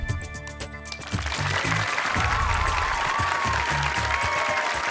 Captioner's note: cheering, applause